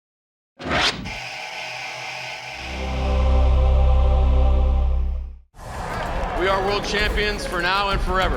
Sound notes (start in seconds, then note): 5.5 crowd cheering